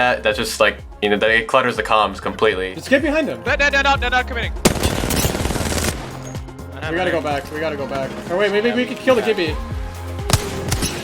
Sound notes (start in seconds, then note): 4.6 machine gun firing